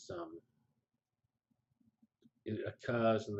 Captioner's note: pause